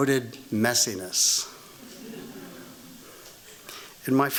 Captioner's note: laughter